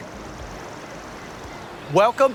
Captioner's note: birds chirping